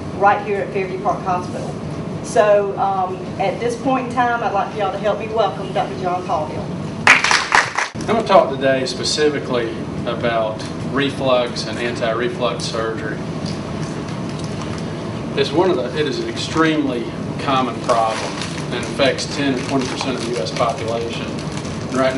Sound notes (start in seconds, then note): 7.0 applause